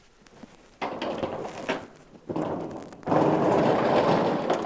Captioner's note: door rattling